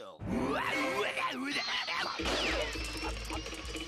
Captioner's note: exclaiming